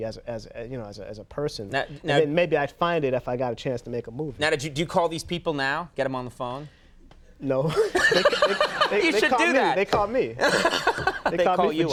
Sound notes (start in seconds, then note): 7.7 Conan laughs; 7.7 laughing; 10.4 Conan laughs